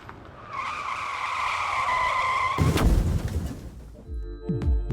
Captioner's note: car engine roaring; car wheels screeching; upbeat music